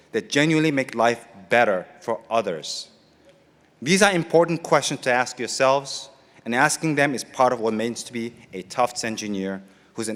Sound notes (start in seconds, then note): none